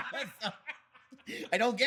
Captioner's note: laughing